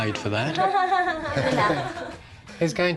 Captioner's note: all laugh